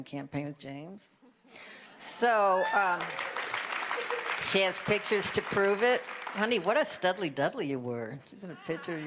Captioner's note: applause